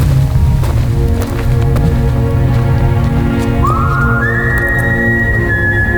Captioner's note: footsteps plodding; gentle ambient music